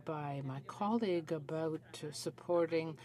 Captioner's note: speaking French